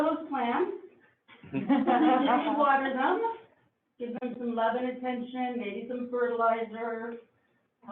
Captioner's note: laughing